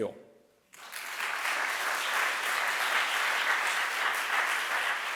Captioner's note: audience applauds